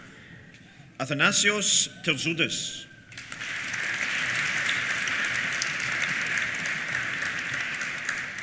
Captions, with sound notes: Athanasios Terzoudis. (APPLAUSE)